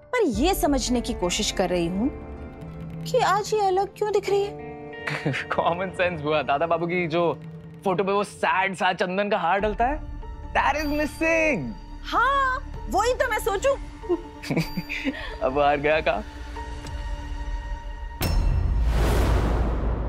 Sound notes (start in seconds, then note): 14.4 chuckles; 18.2 pensive music playing